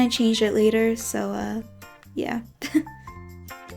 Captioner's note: chuckles